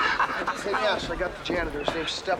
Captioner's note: Nash laughing